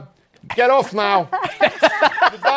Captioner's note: laughter